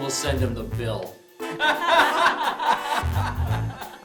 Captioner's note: laughs